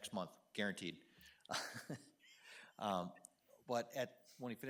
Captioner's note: chuckles